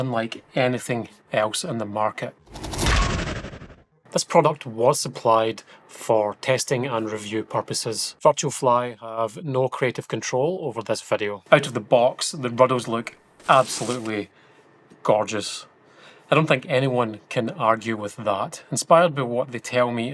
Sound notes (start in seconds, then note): 2.4 crash